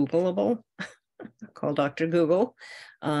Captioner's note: chuckles